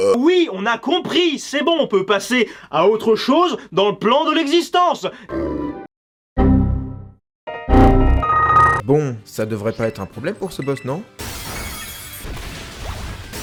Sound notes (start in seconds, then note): 5.3 Mabosstiff's cry; 7.6 Windows XP error sound; 7.6 Repeated sounds of Windows XP errors